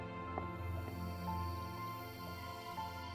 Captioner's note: insects chittering